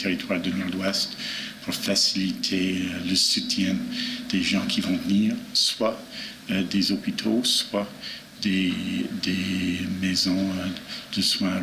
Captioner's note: speaking French